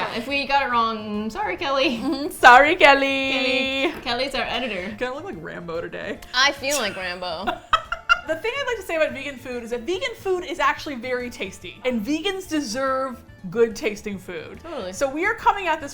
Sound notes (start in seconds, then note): 6.6 laughs